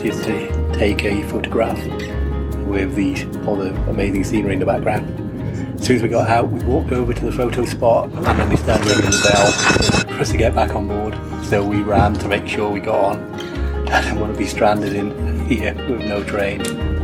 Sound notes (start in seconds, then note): 8.7 bell rings